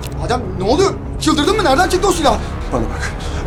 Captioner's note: none